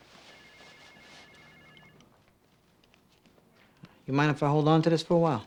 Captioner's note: telephone ringing